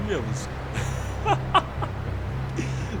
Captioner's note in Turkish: kahkaha